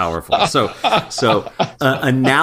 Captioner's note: laugh